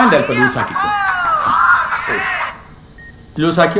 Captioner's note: mobile ringing